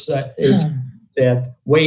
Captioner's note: sneezing